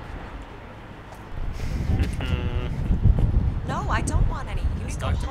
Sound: laughing

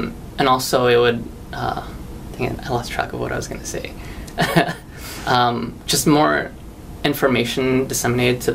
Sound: chuckles

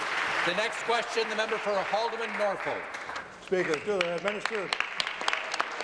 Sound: applause

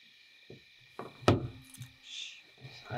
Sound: Porch pops and creaks

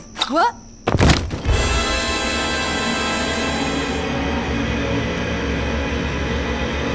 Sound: body thuds; sinister music

